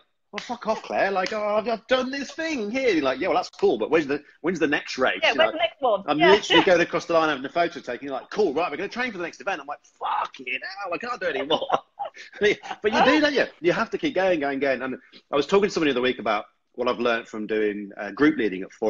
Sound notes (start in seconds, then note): 11.0 laughter